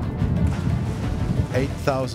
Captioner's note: bombs exploding; splash